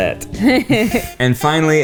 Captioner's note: laughs